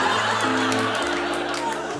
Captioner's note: laughter